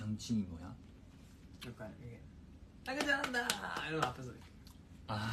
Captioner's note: clapping